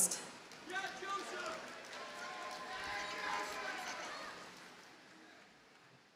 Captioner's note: audience cheers and applauds